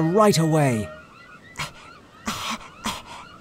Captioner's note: coughs